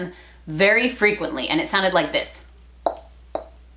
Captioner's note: tongue clicking